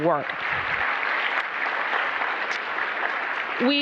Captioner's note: applause